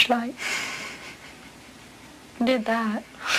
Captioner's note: laugh